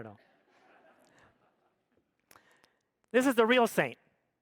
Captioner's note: audience laughs